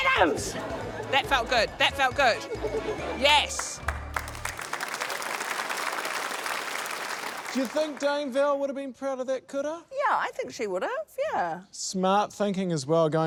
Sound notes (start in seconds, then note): 3.4 applause